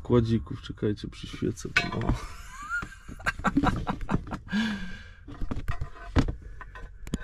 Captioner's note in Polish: śmiech